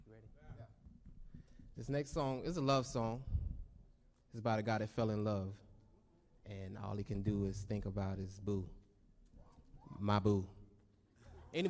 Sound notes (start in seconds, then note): none